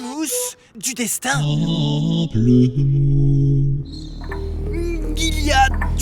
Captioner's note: muffled grapefruit noises